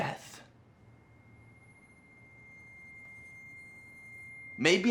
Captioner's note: screeching high-pitched tone